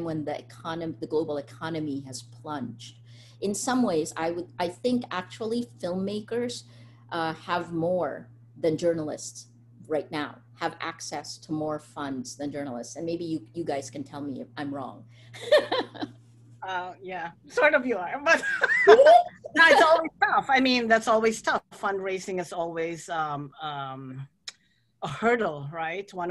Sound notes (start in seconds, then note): 15.4 laughs; 18.3 laughter